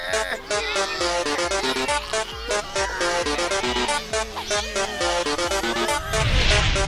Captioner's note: tugging sounds